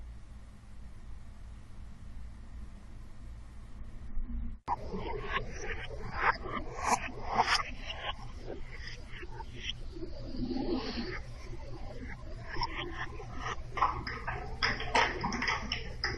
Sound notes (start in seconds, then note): 3.7 dark noise; 13.6 dark noise with clanking